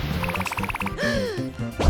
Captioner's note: gasp